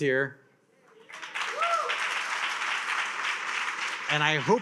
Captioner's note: attendees cheer and applaud